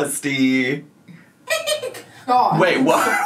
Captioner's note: cackles